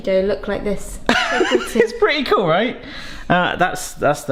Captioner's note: laughs